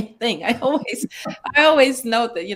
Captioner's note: laugh